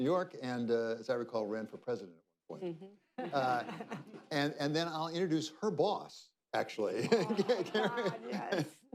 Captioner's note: laughter